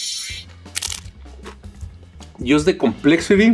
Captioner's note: taco crackling